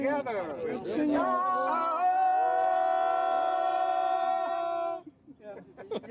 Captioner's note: long yell